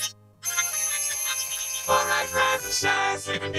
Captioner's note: ringing